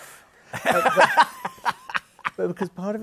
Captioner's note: laughs